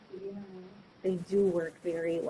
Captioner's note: speaking faintly